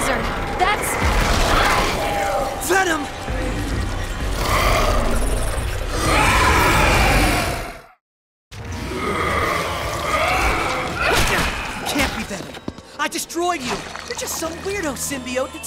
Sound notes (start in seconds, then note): 6.0 roars; 8.6 growling